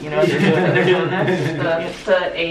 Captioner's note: both laughs